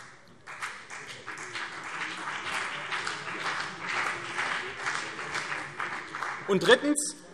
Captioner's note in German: Beifall CDU und vereinzelt BÜNDNIS 90/DIE GRÜNEN